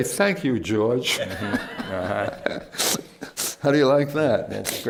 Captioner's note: laughter